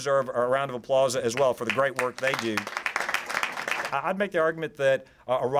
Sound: applause

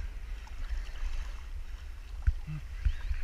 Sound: swashing

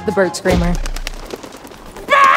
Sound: fluttering

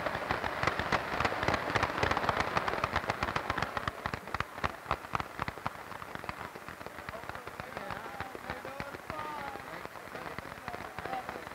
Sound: applause

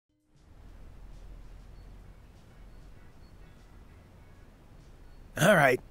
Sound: very faint grocery store ambiance

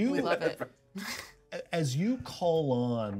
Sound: speaker chuckles; laughs

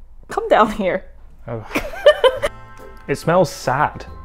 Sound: laughs

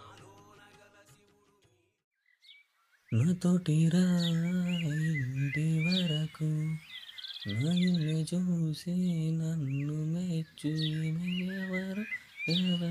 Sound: song Humming

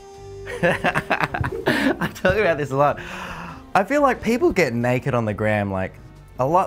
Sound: laughs

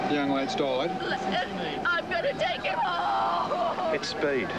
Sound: crying

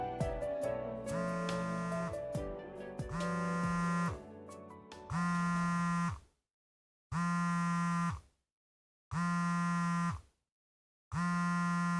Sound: phone rings

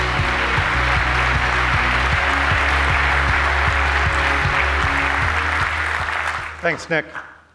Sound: applause

